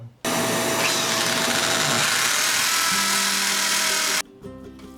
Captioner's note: drill screaming